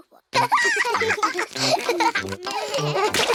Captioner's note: both giggling